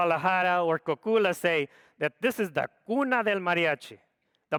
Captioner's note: speaks foreign language